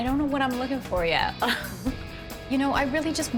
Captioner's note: laughs